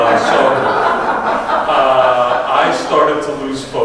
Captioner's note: audience laughs